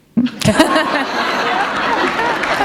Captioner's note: laughter; applause